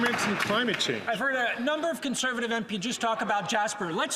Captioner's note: some Applause